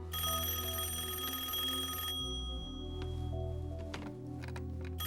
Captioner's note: rings